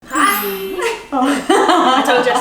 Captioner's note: laughing